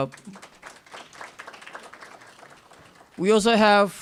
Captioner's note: applause